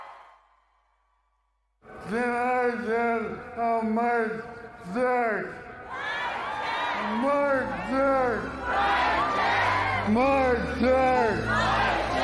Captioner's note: cheering